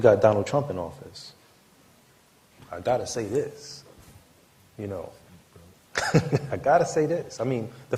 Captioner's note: laughter